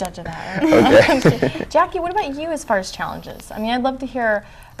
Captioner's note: background chuckles